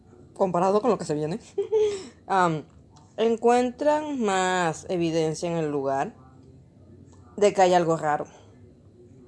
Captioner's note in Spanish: risas nerviosas